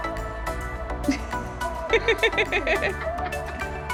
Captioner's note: laughing